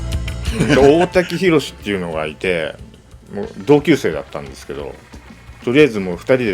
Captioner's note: speaking in foreign language